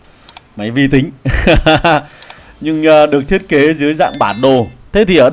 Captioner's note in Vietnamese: tiếng cười